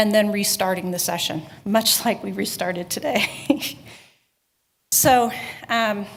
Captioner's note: chuckling